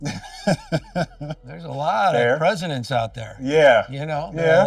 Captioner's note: laughing